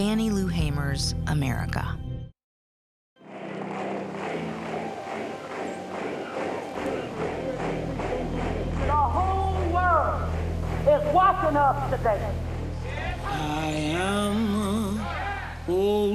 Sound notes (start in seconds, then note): 3.7 people clapping in rhythm, chanting in archival footage